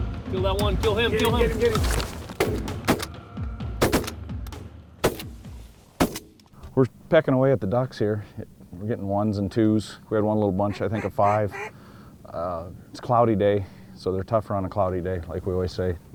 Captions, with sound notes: >>KILL THAT ONE, KILL HIM. (GUN SHOTS) >>WE'RE PECKING AWAY AT THE DUCKS HERE, WE ARE GETTING ONES AND TWOS. WE HAD ONE LITTLE BUNCH, I THINK OF FIVE. IT'S A CLOUDY DAY, SO THEY ARE TOUGHER ON A CLOUDY DAY LIKE WE ALWAYS SAY.